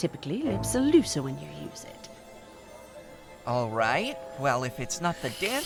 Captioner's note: sips